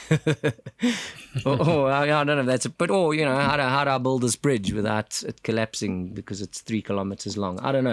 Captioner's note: laugh